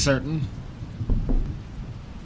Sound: knock

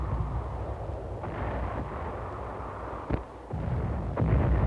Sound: explosions

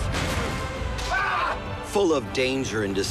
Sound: screams

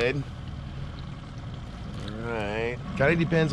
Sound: boat engine idling

